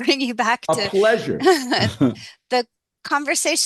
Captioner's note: laughter